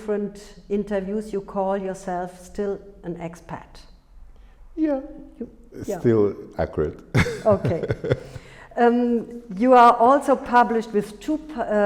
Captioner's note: laughing